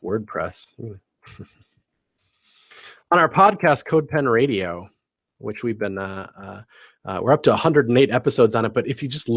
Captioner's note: laugh